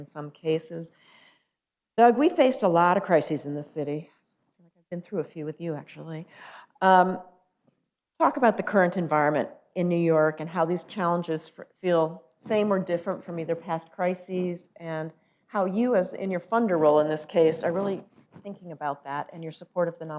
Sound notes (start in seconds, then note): none